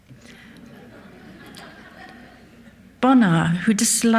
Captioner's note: audience laughs